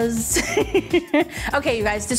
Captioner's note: laughing